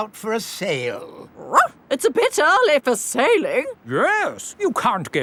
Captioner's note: barks